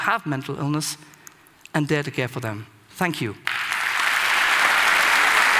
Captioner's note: Applause; 掌聲; Applause; 掌聲